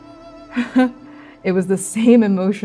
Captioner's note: sadly laughing